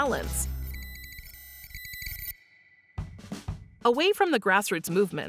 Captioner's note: high-pitched beeps